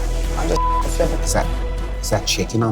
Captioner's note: beep